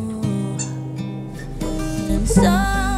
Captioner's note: toy squeaking